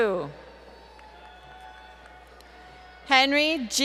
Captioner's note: applause